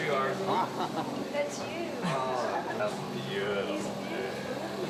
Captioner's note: laughing